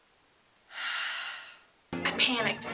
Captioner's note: exhale